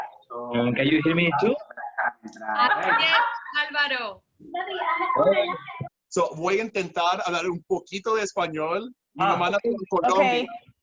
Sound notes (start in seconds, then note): 6.4 in spanish